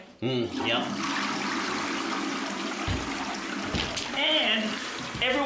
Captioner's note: toilet flushes